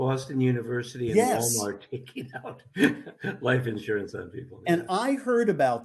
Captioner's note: laughs